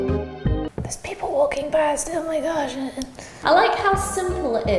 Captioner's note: whispering